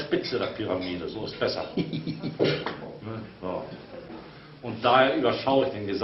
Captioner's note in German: gackert